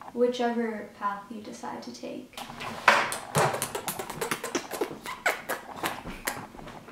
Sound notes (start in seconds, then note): 3.1 kissing noises